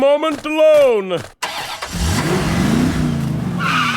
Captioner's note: sound of car engine revving